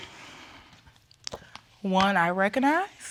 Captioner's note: sighs nervously